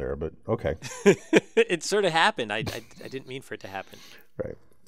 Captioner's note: laugh